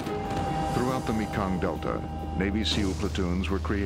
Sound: voiceover

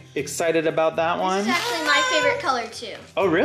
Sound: baby noises

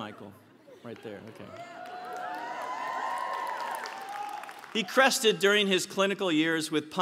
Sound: applause

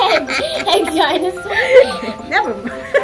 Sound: laughing

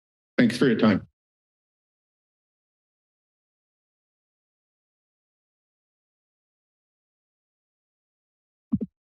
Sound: silence

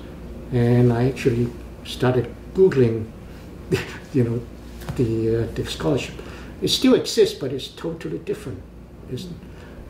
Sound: laughs

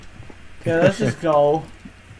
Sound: laughing

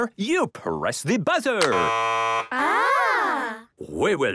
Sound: buzzing

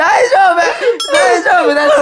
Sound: in tears

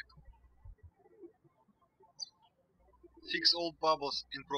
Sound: birds chirping

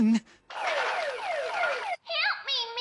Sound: alarm sounding

